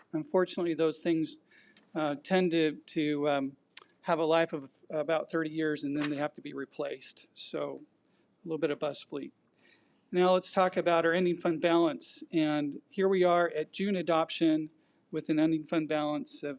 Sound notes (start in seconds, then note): none